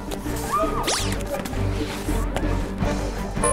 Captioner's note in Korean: 스윽~